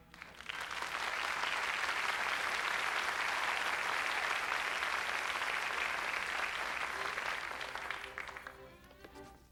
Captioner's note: applause